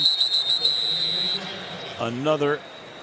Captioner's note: whistling